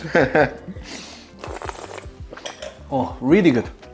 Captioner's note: giggling; slurps